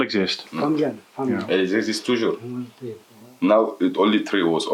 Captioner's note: French